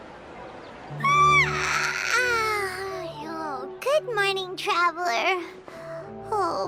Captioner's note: yawn